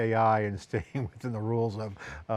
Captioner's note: laughs